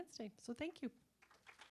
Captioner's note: applause